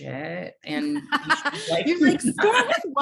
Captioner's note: laughing